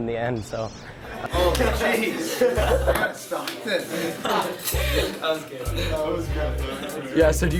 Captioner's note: laughter